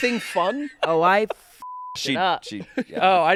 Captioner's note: beep